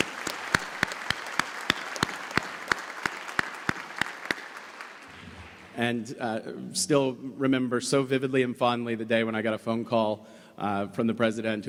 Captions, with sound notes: [ Applause ] And still remember so vividly and fondly the day I got a phone call from the president